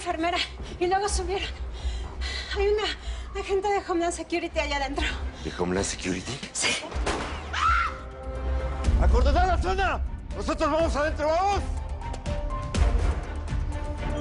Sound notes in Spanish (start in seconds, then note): 7.0 Disparos; 7.4 Gritos